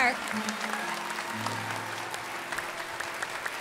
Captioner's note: applause